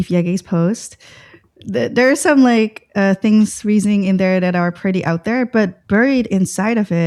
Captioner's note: uh